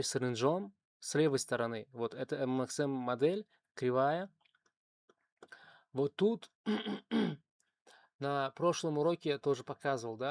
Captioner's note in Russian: кашель; откашливается